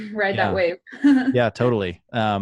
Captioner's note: laughs